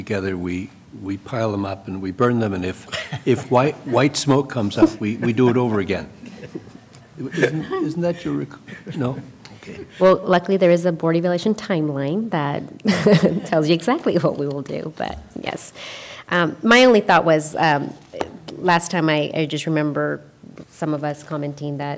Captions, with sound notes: »: You asked what happens to this afterwards and my understanding is that at the end of the time together, we pile them up, and we burn them. And it white smoke comes up, we do it over again. (Laughter) »: Well, luckily there is a board evaluation timeline that tells you exactly what we will do. But, yes.